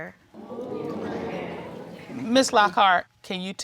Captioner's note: crowd